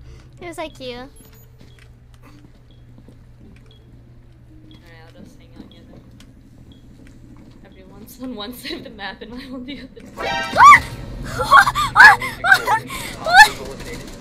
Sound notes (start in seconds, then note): 0.5 giggling; 9.2 giggling; 10.0 alert sound; 11.2 laughing hysterically